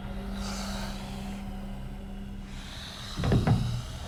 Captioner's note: creature breathing; eerie music